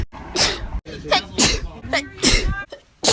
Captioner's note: SNeeZe